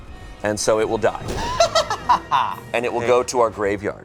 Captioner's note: laughing